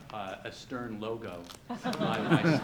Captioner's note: audience laughs